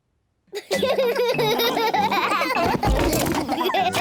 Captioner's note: all laugh